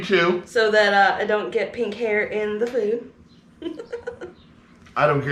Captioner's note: giggling